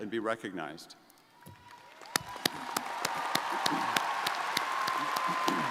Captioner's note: crowd applauding